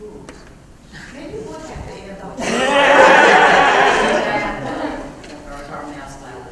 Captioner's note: laugh